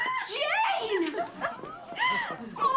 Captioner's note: laughs